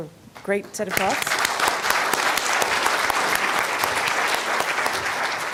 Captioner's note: applause